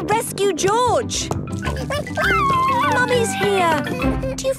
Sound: George crying

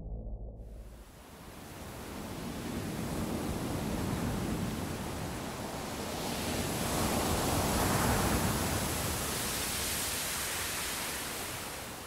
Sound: sound of waves breaking

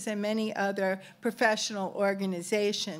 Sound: none

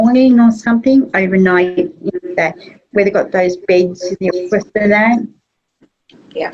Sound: audio distorts

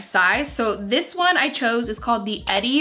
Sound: mouse clicks

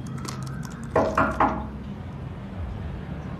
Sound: knocks on door

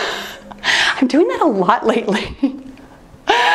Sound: laughing

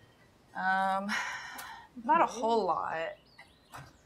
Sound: sighs heavily

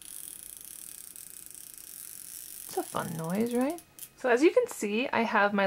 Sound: more chalk making rattling noises

